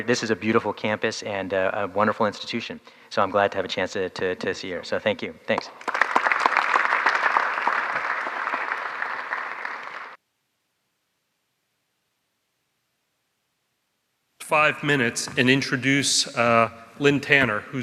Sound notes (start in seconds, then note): 5.6 audience applauds